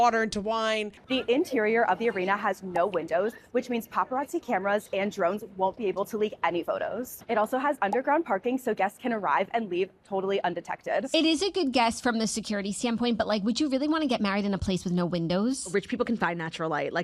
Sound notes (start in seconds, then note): none